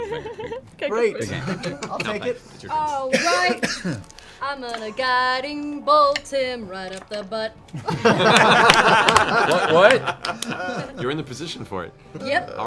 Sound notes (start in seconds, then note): 6.1 sing-song; 7.7 laughter